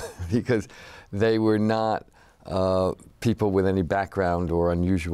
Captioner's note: laughs